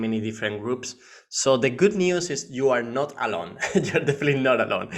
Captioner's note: laughing